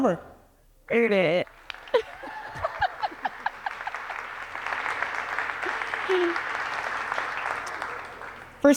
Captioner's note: applause